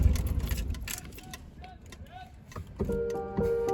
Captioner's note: background noise of a yelling vendor